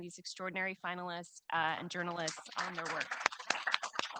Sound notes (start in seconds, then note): 2.2 audience applauding